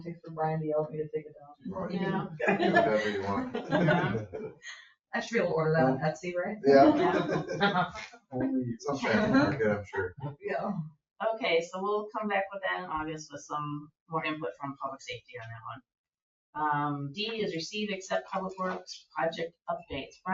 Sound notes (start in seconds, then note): 1.7 people chuckle; 6.6 people chuckle; 8.3 people chatter